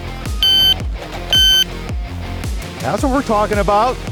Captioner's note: electronic beeping